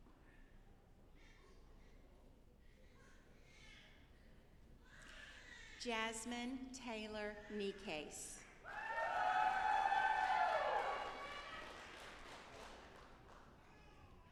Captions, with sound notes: Jasmine Tayler Necaise. (audience applauding)